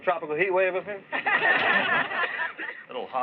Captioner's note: laughter